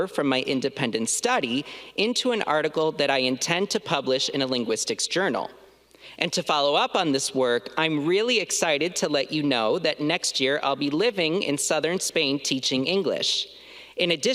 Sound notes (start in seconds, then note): none